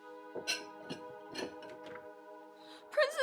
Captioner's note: somber music; glass clinking